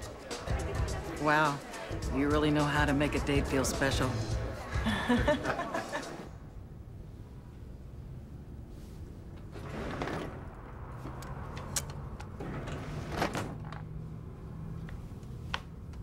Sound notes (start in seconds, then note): 4.7 laughter